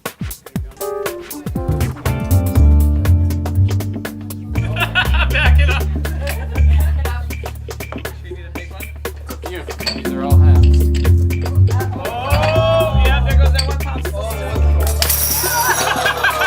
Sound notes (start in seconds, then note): 4.5 laughs; 15.1 breaking noise, loud crash, laughter